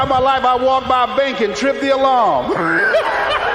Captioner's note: laughs